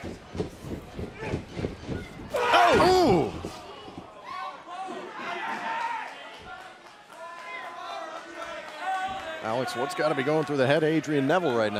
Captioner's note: crowd chatter